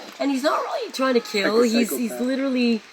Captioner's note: laughs